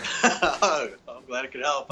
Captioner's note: chuckling